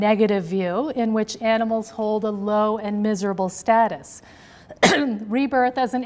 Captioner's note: coughs